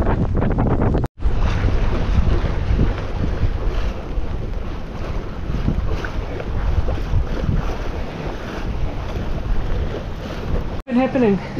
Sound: sound of water rushing past

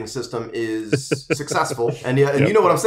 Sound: laughs

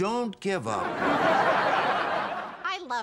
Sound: audience laughing

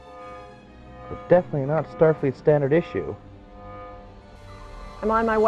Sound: buzzing/Throbbing sound

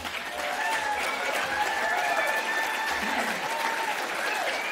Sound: audience clapping

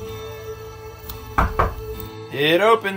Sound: door Knocking

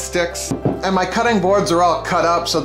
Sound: banging

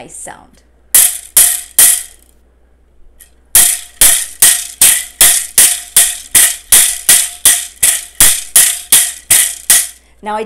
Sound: bamboo sound

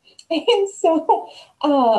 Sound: laughs

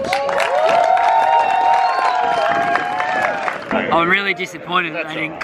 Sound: audience cheering and applauding

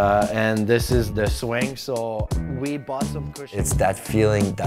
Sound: voice fades

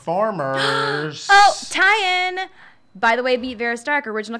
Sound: gasps

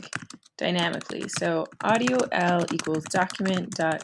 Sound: typing

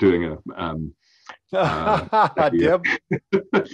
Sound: laughs

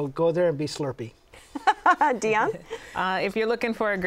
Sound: laughs

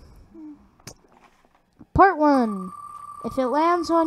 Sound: lip smack

